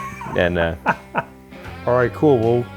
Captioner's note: laughing